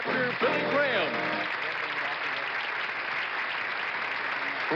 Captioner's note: applause